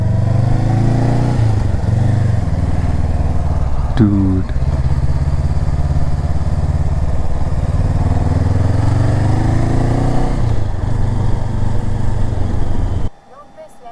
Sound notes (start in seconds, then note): 0.3 engine thrum; 5.2 engine thrum